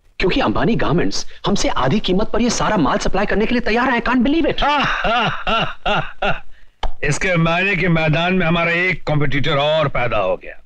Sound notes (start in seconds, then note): 4.5 laughing